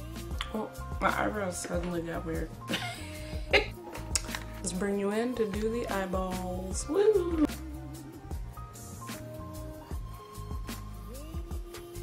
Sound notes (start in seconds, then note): 2.7 flustered laughter; 4.0 smacks mouth